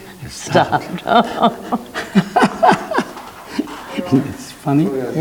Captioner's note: laughing